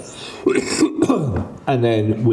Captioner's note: coughing